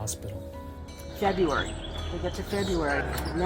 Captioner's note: bird sounds of Stanford campus